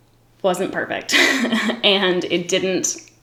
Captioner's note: giggles